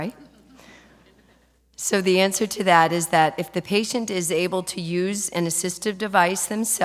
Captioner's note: laughter